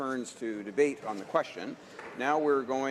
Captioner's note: some applause